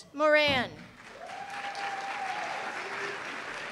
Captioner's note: applause